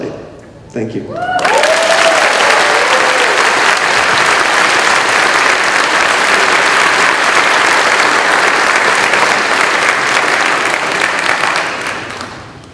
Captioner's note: cheering